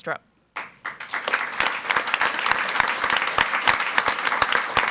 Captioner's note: audience applauds